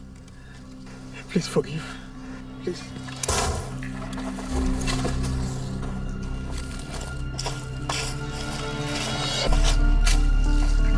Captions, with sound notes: - Please forgive. (gunshot fired)